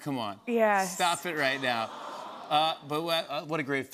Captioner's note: audience awws